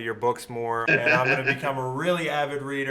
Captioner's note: George laughs